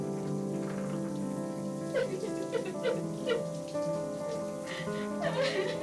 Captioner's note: crying